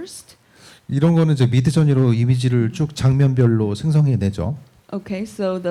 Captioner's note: speaking korean